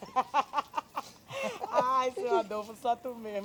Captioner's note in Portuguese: gargalhadas